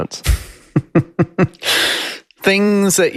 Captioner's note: chuckles